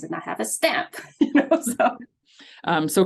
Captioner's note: laughs